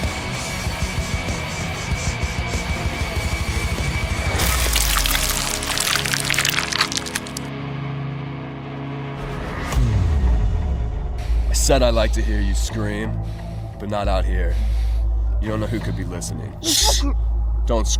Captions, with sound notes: (Elizabeth breathing heavily) (Bloody splash) I said like to hear you scream. But not out here. You don't know who could be listening. Shh! (Michelle mumbling)